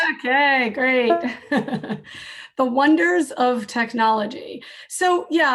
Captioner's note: laughs